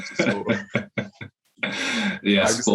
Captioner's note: laughs